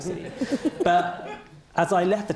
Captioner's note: all laugh